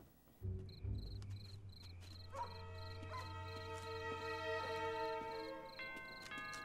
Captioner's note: crickets chirping; dog barks; doorbell rings